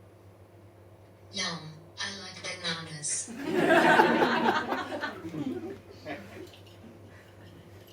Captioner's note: audience laughs